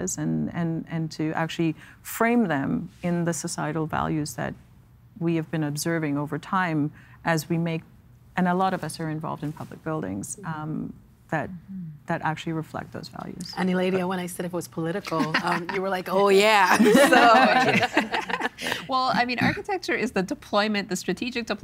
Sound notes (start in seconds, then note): 16.6 laughing